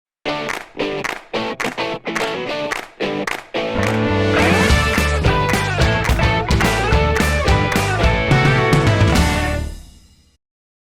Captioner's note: claps